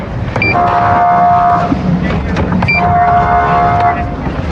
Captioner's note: horn n blblarining